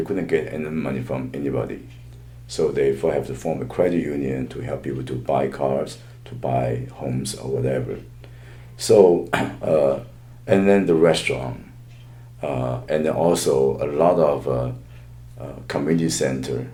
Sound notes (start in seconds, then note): 9.2 coughs